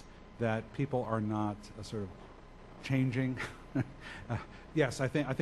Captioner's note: laughs